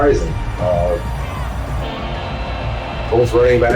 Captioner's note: crowd Noises